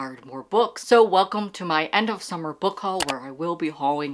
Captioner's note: mouse click